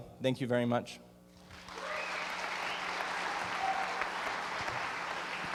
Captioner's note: applause